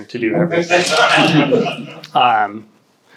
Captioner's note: audience laughs